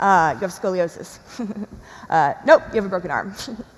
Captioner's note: chuckles